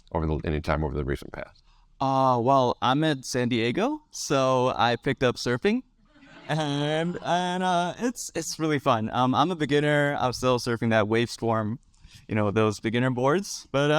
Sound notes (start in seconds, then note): 6.2 audience laugh